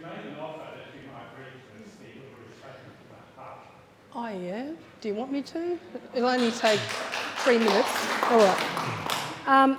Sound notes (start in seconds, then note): 6.3 audience applauding